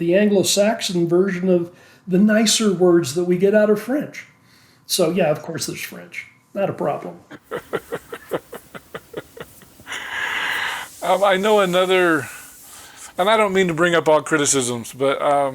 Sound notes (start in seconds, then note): 7.3 chuckling